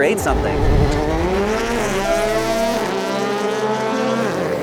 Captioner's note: car revving